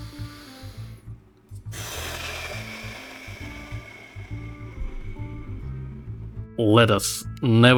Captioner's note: sounds of self-dissapointment